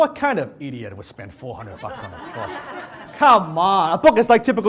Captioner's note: audience laughs